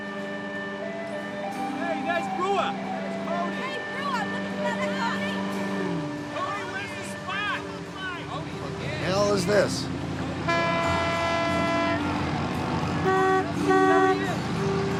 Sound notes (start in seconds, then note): 3.7 indistinct shouting; 10.3 honking; 12.7 indistinct chatter